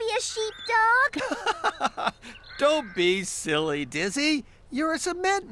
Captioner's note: laughing